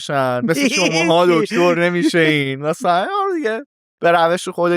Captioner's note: laughs